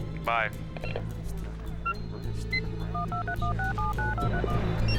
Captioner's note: dialing; cell phone ringing